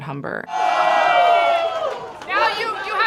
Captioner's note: group cheering